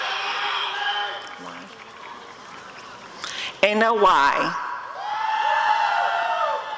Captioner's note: applause and cheering